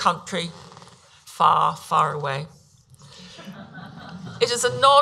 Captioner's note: audience laughs